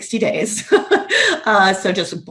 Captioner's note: laughs